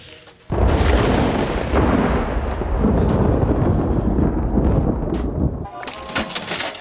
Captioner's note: thunder; Sponge Bob - Cash drawer opens